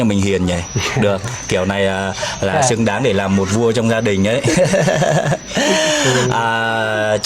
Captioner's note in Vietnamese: tiếng cười